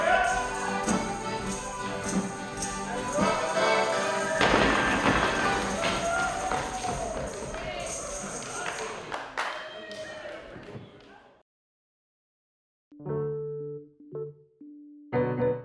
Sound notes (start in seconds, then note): 0.0 man hollering; 4.4 sticks thudding; 8.6 clapping; 8.6 whooping; 13.0 mellow music